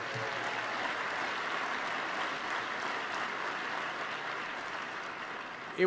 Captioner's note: applause